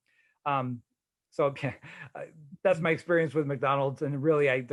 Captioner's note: chuckling